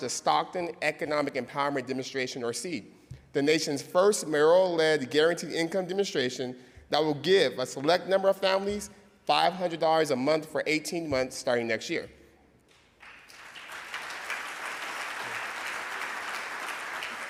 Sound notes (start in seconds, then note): 12.7 audience clapping